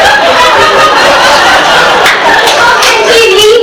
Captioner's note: audience laughs